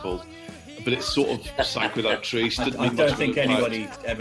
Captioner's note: o.c laughter